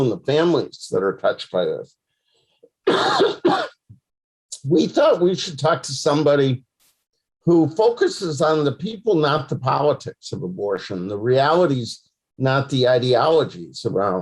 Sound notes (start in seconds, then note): 2.8 coughs